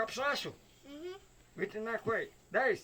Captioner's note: speaking Yanomami; speaking Yanomami